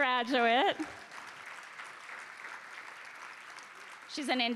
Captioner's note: applause